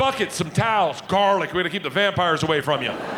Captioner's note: audience laughing